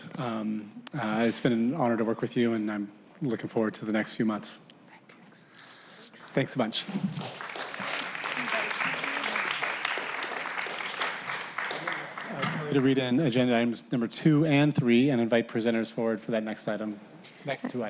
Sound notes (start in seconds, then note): 8.7 applause